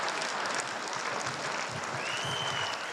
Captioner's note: applause